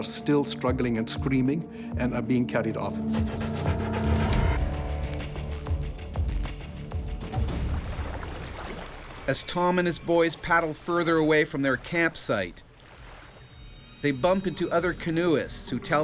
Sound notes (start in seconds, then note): 9.4 voiceover